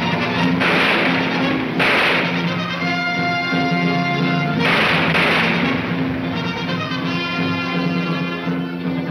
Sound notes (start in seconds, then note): 0.0 gunshots banging